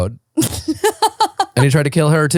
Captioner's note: laughing